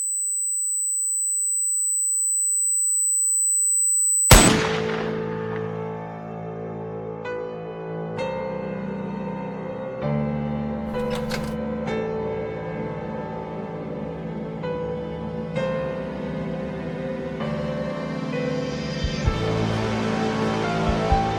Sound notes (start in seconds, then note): 0.2 sound shrills continues; 4.2 eerie gentle music; 4.3 gunshot cracks; 10.9 door clicks; 13.3 eerie gentle music continues